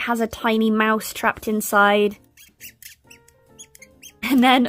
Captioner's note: squeaking